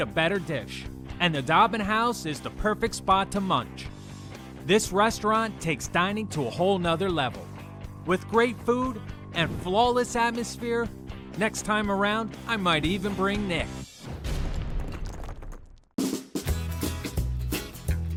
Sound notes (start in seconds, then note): 13.4 logo whooshing; 16.0 upbeat music